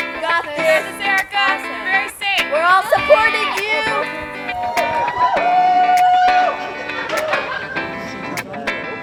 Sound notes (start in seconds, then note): 4.3 yells; 4.7 girls whooping